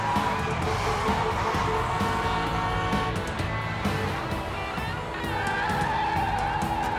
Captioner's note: horns honking; tires screeching